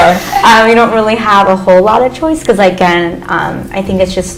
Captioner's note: laughter